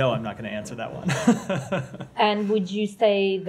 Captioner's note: laughter